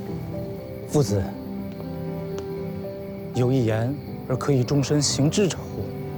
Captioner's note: hablan un idioma extranjero